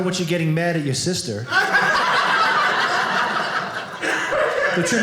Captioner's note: audience laughing